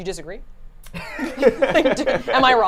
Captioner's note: laughs